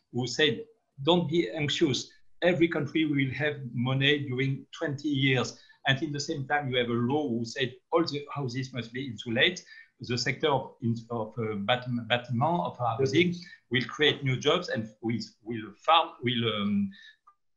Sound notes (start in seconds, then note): 11.2 speaking in foreign language